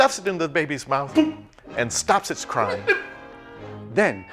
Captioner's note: imitates corking sound